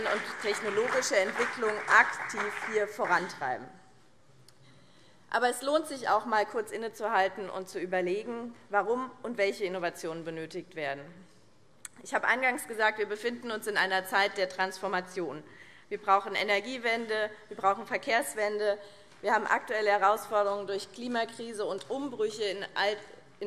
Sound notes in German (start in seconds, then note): 3.9 Beifall BÜNDNIS 90/DIE GRÜNEN und CDU